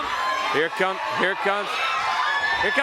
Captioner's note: crowd chatter